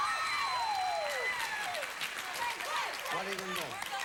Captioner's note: audience applauding